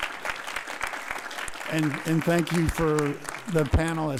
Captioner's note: audience applauds